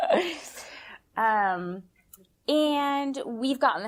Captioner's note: laughter